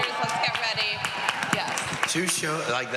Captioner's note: cheering and applause